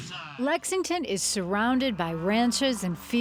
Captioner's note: voiceover